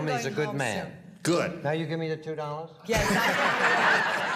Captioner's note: laughter